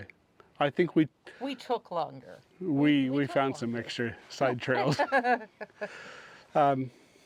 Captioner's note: laughter